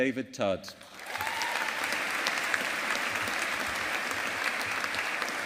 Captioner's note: audience applauding